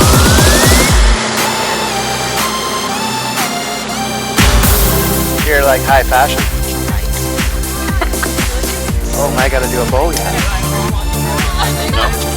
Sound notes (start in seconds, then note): 8.1 laughs; 10.6 lively music